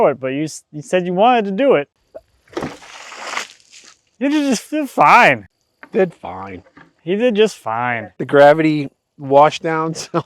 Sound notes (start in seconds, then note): 2.3 water sloshing